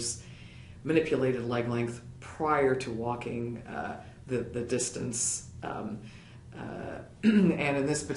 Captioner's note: cough